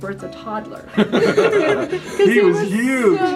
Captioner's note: laughter